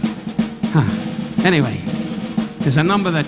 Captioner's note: Don sighing